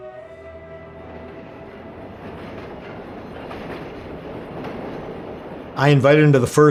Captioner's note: train rails